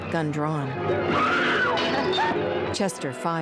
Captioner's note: woman screams